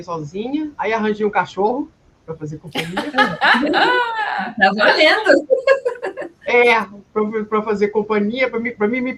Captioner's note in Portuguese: risadas